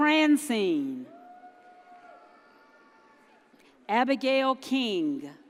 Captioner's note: audience cheers